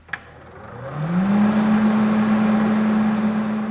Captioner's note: whirring